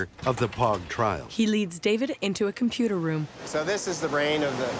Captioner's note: computers hum